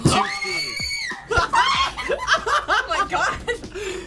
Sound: screams; laughs

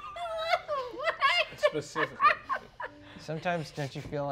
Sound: laughing

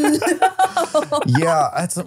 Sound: laughing

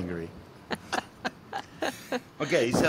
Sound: laughing

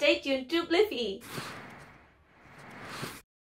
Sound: swish

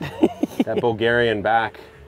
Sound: laughs

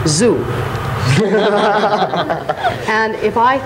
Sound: audience and panelists laugh

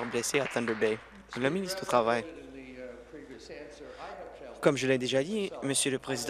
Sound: applause

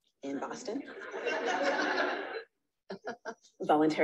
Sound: audience laughs

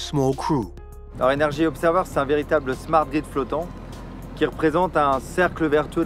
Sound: speaks in foreign language

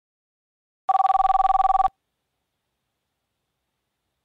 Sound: Hanazuki's IPhone Ringing

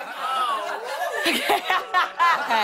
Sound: laughing; laughter

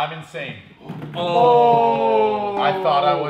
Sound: cheering

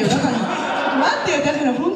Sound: laughs

